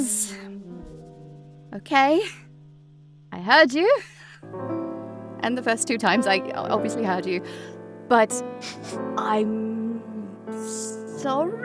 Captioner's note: chuckles